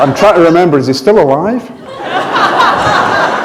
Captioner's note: laughter